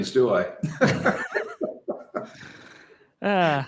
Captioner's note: both laughing